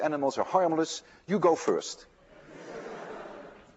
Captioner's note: laughter